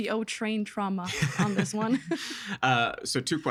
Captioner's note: laughing